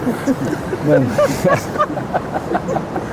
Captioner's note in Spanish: Risas